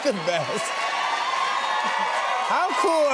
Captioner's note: cheers and applause